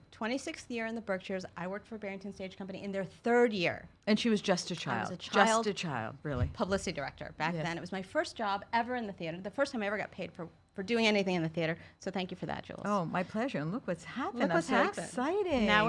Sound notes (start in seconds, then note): none